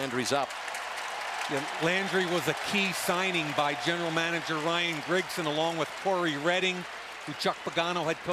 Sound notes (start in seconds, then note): 1.3 cheering